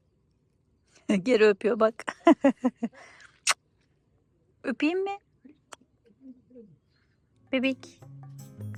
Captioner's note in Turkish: kahkaha